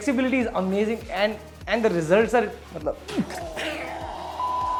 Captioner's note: excitement